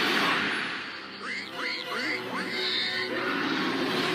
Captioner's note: roar; Waddles squealing